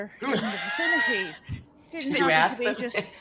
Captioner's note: laughs